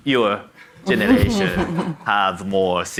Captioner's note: audience laughs